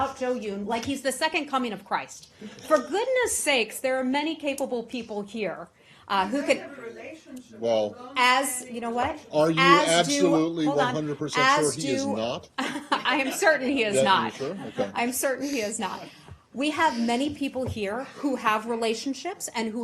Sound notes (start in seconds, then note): 12.6 laughter